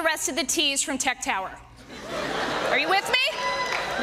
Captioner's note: laughter